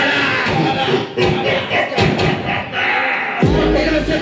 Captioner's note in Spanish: Risa demoníaca